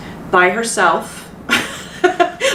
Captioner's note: chuckles